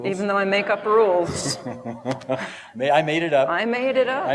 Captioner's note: laughter